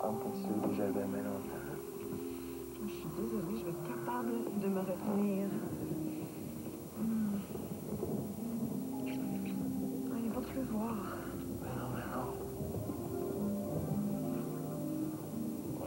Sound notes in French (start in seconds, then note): 6.6 Gémissement; 8.5 Le tonnerre gronde